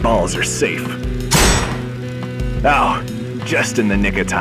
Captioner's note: A clanging metal sound